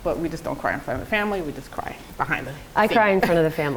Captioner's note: chuckles